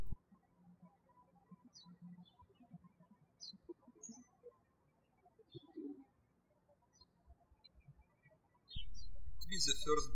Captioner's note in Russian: птички щебечут